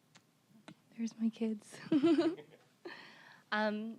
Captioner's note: chuckling